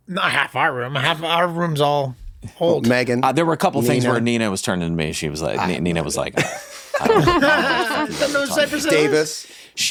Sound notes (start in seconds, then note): 7.8 everyone laughs